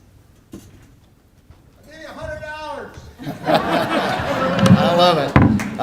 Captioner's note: laughter